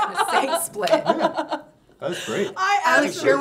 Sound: chuckling

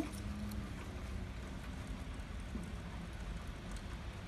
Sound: raining continues

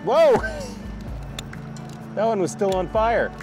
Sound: laughs; lighter clicks

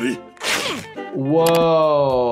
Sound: skin ripping

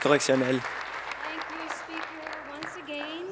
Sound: applause

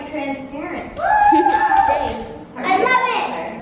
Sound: kids cheer

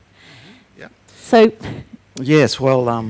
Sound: chuckles

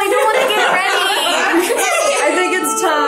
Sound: group laughs

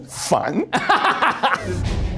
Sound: laughs; dramatic music

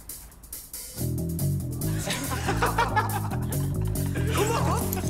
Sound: laughter

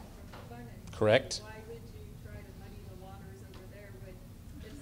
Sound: voiceover

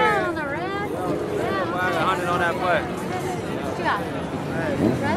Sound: crowd chatting

